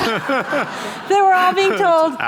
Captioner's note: laughter